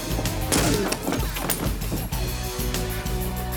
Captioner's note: John grunts; door thuds; footsteps tapping